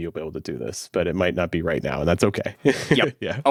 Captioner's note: laughs